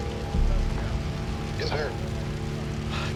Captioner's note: on phone